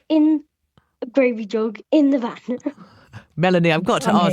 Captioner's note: laughs